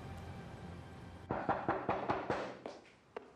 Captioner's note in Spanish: toques en la puerta